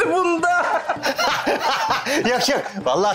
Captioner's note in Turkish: Gülme sesleri